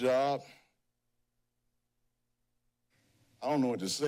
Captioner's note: pause